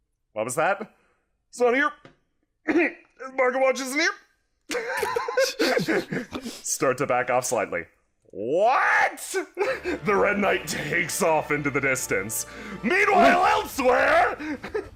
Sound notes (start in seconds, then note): 2.6 clears throat nervously; 8.6 yelling